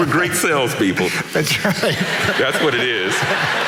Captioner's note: laughing